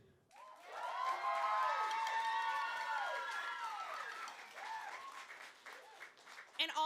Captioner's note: applause